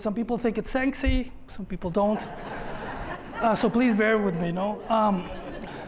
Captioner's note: laughter